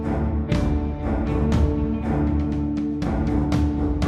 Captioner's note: none